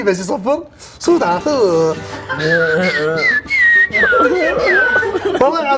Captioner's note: mimics a whistling Chinese man